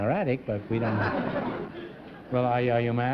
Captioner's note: laughter